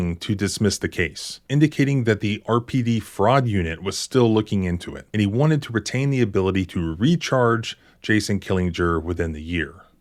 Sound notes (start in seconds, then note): none